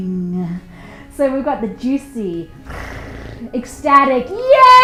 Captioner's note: purring